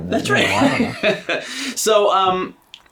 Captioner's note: laughs